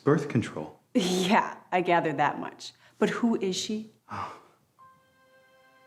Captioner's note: laughs